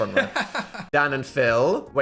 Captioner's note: laughs